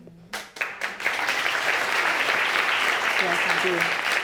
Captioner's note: audience applauds